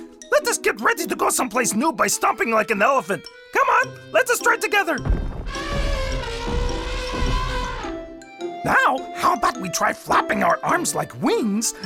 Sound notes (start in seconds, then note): 5.0 feet pounding; 5.4 elephant trumpets